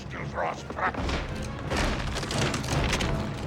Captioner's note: pounding